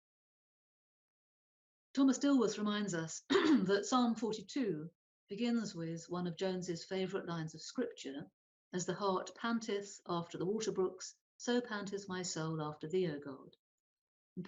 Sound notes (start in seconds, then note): 3.3 clears throat